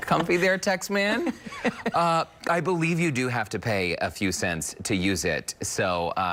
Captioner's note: laughter